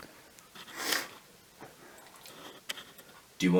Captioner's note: sniffles